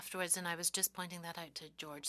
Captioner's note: speaking French